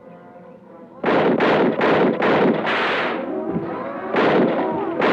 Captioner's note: gunshots blasting